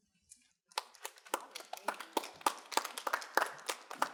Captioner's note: students applauding